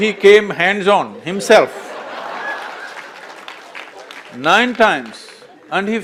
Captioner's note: laughter/Applause